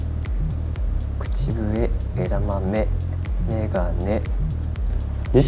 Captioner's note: whistle